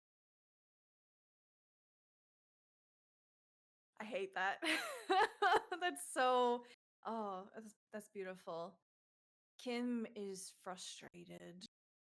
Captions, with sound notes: - I hate that. (laughs) That's so, oh, that's beautiful. Kim is frustrated,